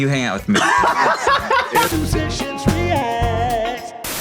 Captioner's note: laughs